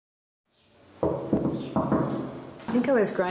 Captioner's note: door knocking